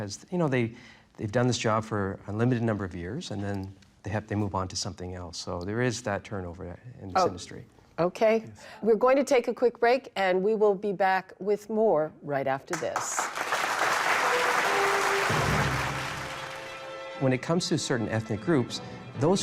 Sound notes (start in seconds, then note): 12.7 applause